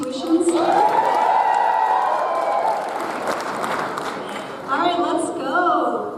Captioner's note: parents cheer and applauds